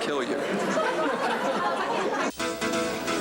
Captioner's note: crowd laughing